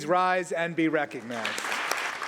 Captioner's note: applause